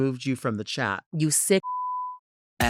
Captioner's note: beep